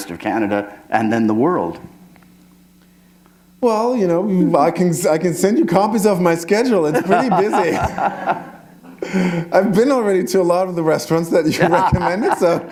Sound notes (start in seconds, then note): 6.9 laughter